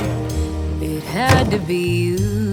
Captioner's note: slam